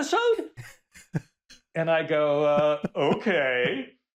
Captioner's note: laughs